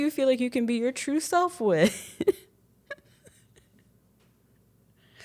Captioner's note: chuckles